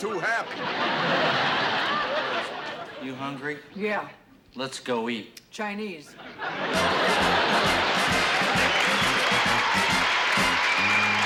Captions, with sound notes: [ Laughter ] -You hungry? -Yeah. -Let's go eat. -Chinese. [ Laughter ] [ Upbeat music ] [ Cheering ]